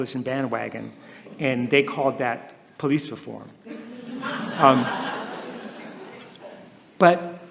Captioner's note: laughter